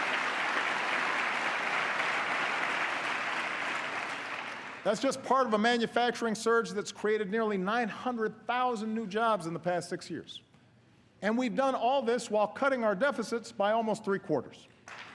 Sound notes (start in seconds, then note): 1.7 applause